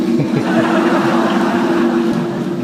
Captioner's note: laugh